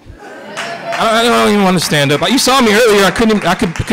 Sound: applause

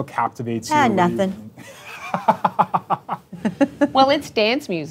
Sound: laughing

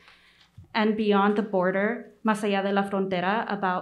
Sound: speaks Spanish

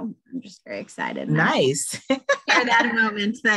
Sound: laughs

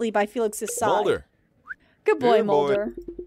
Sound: whistle

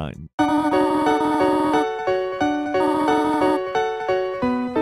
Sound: game beeping

